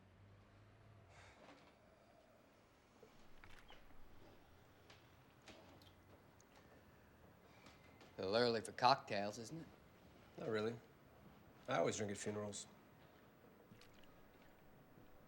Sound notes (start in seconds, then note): none